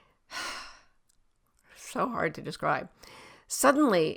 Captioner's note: sighing